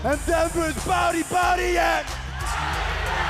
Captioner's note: crowd cheering